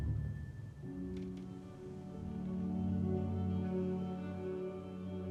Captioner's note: floor creaking; somber violin music